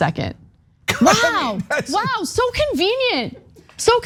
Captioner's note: laugh